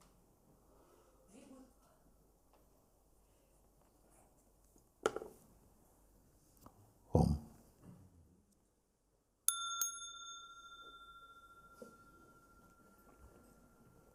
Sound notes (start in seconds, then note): 9.5 rings the bell; 10.3 long silence